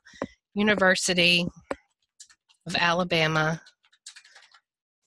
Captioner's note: fast typing